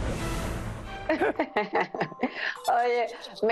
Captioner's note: laughter